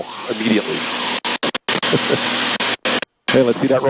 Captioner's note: radio static